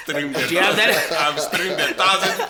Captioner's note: everybody laughs